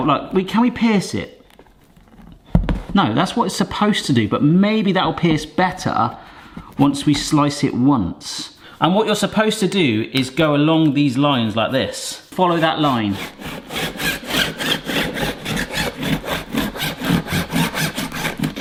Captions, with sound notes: look, wait, can we pierce it? No, that's what it's supposed to do. But maybe that'll pierce better once we slice it once. And what you're supposed to do is go along these lines like this. Follow that line. (knife slicing)